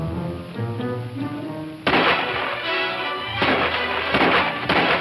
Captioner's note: more incessant gunshots